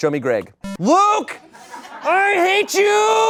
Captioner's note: electronic beep; audience laughing